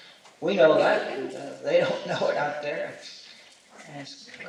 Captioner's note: chuckles